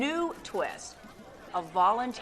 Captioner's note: crowd shouting indistinctly, camera shutters clicking